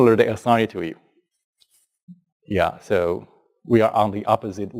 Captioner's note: pause